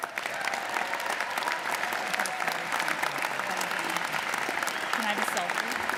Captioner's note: audience applauding; audience cheering